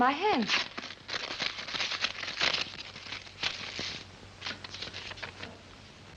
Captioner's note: paper rustling